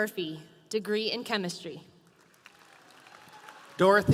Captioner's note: audience applauding